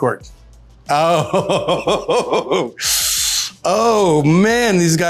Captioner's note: laughs